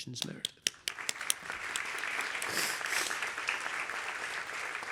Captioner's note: applause